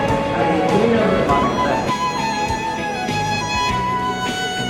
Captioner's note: people chattering